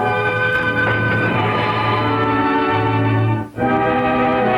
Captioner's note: water splashing